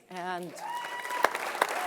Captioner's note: applause; cheer